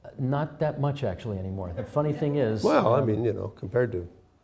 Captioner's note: laughter